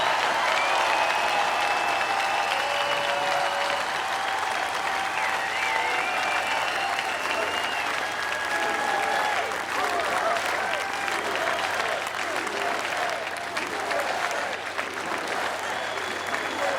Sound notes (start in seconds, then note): 1.7 applause; 4.7 cheers